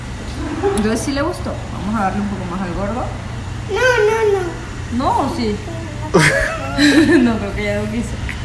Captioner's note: laughs